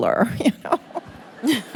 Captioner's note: laughter